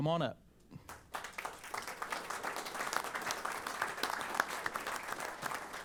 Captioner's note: applause